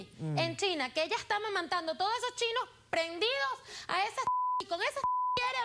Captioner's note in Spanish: Bip